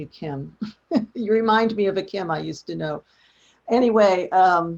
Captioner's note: laughs